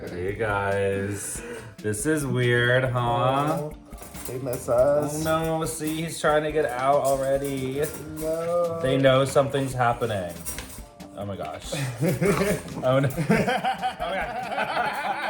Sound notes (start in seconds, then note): 11.6 chuckling